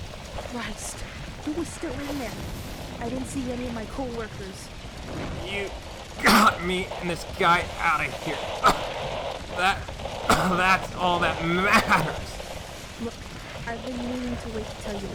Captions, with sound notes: Christ, who was still in there? I didn’t see any of my coworkers… You got me and this guy out of here. (a cough) That's all that matters. (sounds of radio static in background) Look, I’ve been meaning to wait to tell you this,